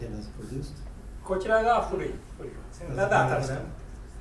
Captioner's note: speaking in foreign language